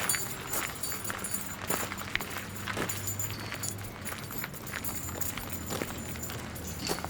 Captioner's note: keys jingling